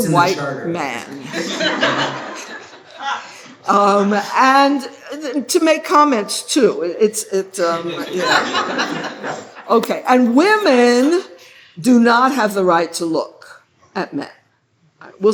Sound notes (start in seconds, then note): 1.2 laughter; 7.8 laughter